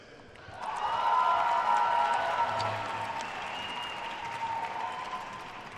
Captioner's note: attendees cheering and applauding